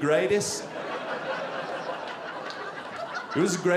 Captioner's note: audience laughing